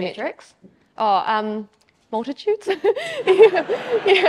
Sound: audience laughs

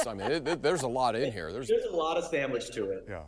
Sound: laughter

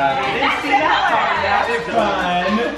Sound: yelling

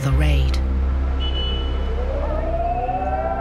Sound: horn honking; raid sirens blaring

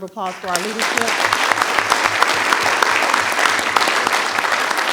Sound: audience applauding

